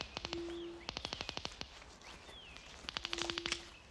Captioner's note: detectors clicking